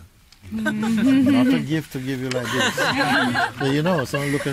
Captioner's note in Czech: smích